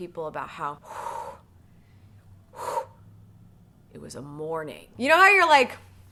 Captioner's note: breathes heavily